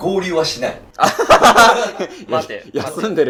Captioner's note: laughing